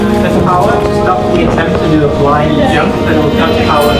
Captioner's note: men chattering